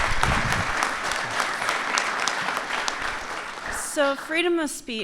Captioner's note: applause